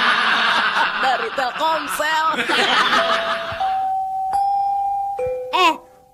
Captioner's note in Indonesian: tertawa